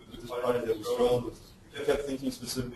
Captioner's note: distorted speech